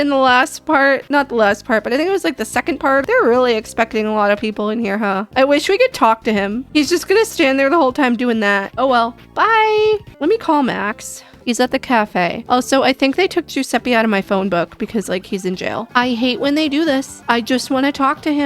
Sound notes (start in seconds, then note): none